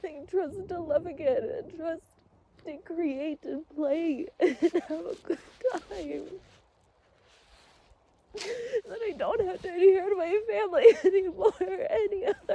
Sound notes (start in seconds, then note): 8.1 sobs through words